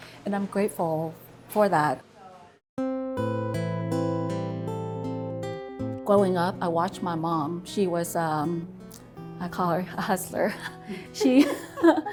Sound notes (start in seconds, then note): 3.0 soft music; 10.4 laughs